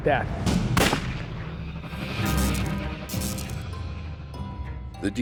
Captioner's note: gunshot